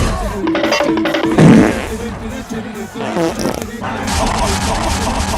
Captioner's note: cartoon Sounds